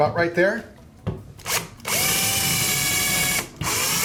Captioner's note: drilling